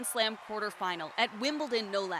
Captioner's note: cheers and Applause